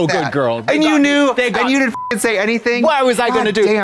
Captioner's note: beep